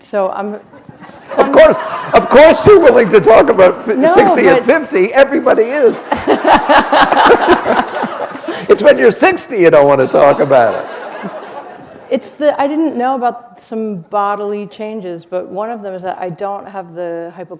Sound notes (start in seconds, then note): 5.9 laughter